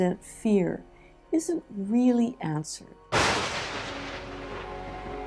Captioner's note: thunder